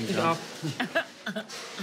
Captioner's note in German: Beide lachen